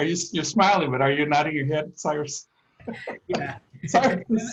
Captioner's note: laughter